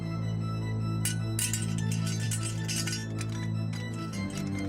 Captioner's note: clinks